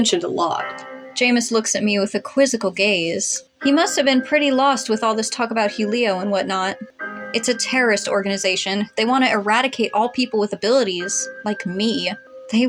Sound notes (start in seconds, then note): none